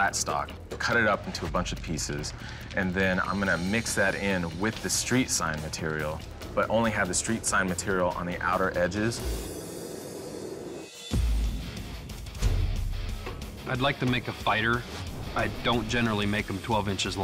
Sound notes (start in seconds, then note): 9.0 fire roars; 10.8 rock music plays